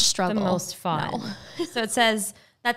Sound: laughing

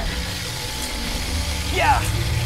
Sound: blaster roaring

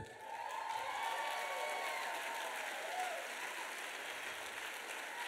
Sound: applause

